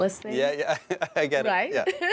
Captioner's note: laughs